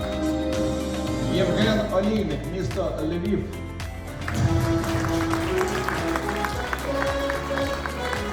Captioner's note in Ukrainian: оплески